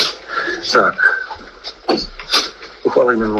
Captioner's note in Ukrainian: сопіння